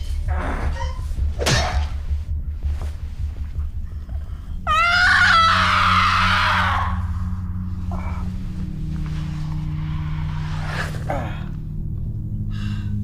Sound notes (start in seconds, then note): 1.2 thudding; 4.6 screaming; 7.3 Monte groans; 7.3 light dramatic music